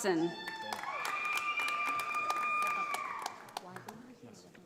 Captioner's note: audience applauding